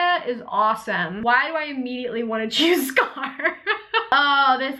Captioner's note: laughs